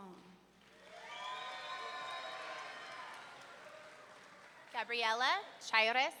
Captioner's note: audience members cheering